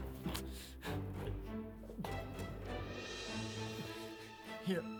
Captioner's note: Dale grunting in pain